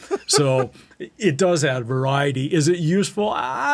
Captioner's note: laughter